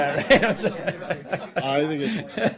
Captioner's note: laughter